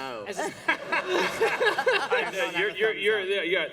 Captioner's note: laughter